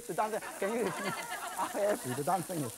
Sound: laughing

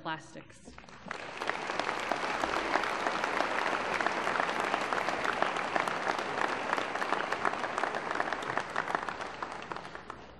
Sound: applause

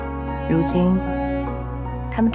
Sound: none

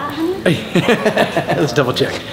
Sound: Rocky laughing

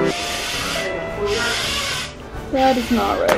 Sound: piano playing; blowing

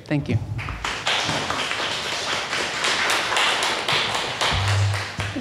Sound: audience members applaud

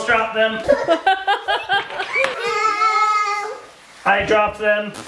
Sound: laughing

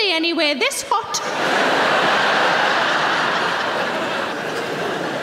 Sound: audience laughing

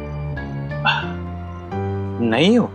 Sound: sighs

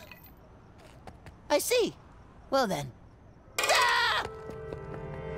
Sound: screaming

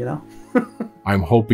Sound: chuckles

